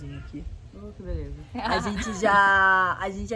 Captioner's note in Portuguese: laughing